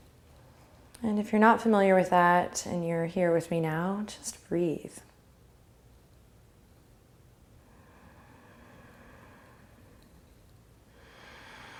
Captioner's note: breathing